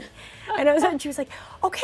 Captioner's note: laughs; laughing